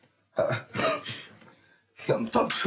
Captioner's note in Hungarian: köhög